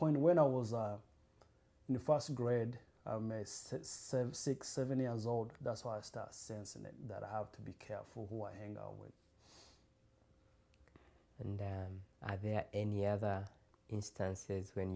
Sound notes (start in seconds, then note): none